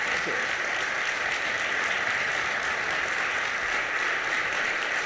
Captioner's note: audience applauding